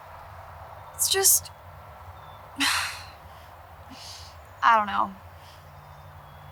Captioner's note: sighs